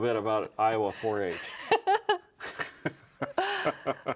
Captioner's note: laughing